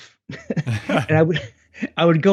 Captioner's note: both laugh